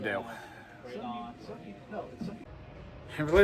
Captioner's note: Students chattering at Purdue Fort Wayne's Walb Student Union